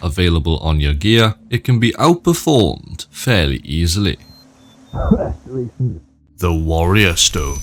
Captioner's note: coughs